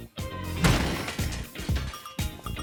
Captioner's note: barrel smashing